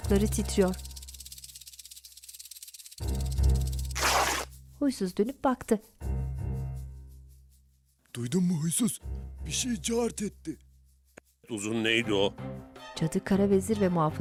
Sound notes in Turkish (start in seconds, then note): 0.8 Titreme sesi; 3.9 Yırtılma sesi